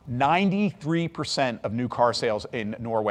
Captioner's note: none